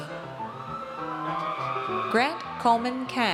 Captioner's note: audience cheers